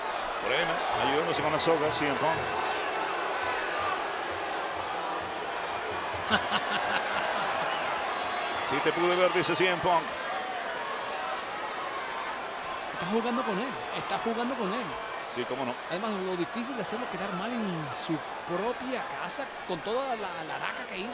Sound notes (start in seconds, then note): 4.9 applause; 6.2 laugh